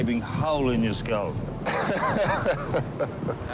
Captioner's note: captain salazar laughs